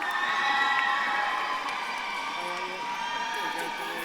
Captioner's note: audience claps and cheers